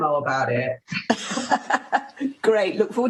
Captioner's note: laughter